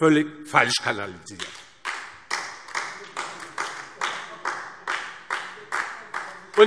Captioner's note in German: Beifall DIE LINKE